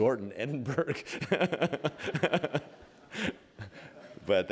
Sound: laughter

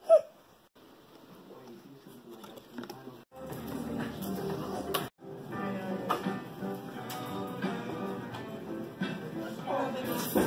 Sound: people chatting and random music playing in background

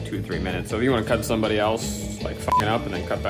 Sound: beep

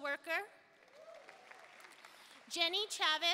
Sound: audience applauding

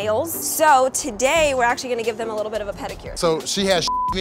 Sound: beep

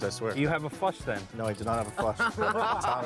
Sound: laughter

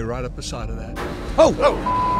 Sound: metal clangs

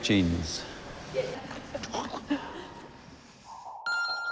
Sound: laughs

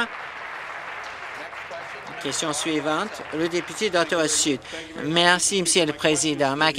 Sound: some Applause

